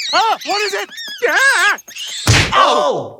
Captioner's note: bat squeaking; Peter yells